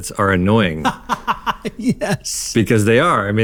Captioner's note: laughs